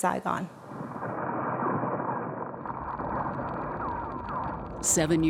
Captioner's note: gunshots popping